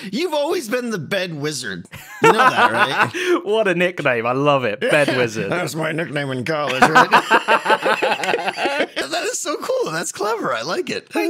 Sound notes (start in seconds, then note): 2.0 laughs; 6.7 laughing